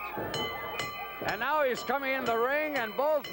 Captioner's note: bell ringing